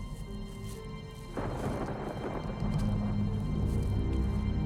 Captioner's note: thunder claps